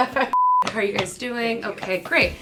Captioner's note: laughs; beep